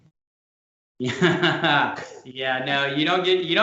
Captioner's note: laughs